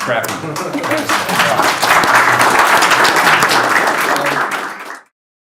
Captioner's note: audience applauds